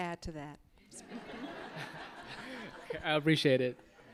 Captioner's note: audience laughing